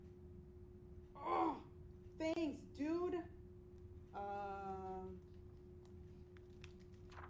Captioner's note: grunt!